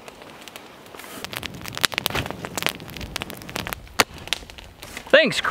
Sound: fire crackling

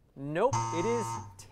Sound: error buzzer

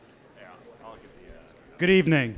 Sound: indistinct chatters

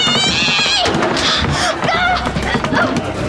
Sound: grunting

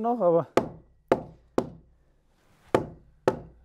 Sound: knock

